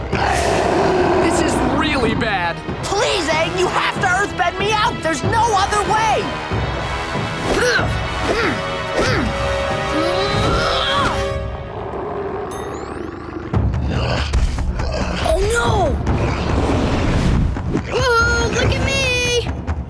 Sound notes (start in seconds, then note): 0.0 growling; 7.2 grunting; 11.6 snarling